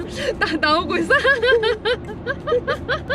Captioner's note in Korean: 웃음